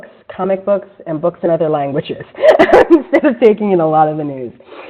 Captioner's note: laughs